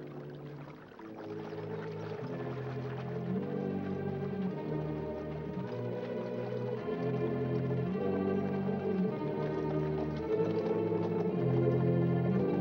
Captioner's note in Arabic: رش الماء; موسيقى مشؤومة